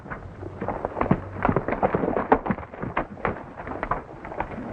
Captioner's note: horse galloping